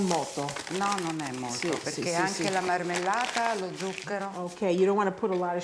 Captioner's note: speaking Italian